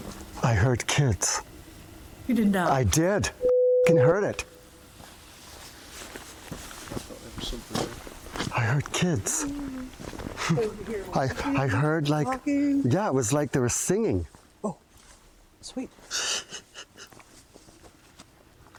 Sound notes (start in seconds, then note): 5.0 rustles; 16.1 chuckles